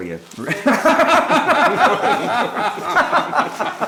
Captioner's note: laughing